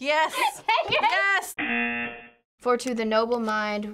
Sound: buzzer

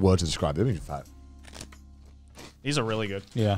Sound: crunching

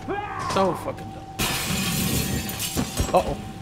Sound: glass shattering

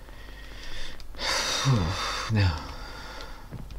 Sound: sighs wearily

